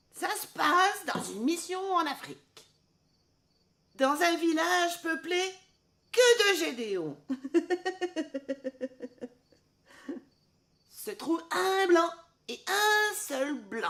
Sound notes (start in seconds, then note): 7.3 giggling